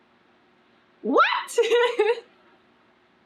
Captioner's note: laughs